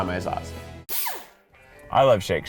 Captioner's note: blender whirs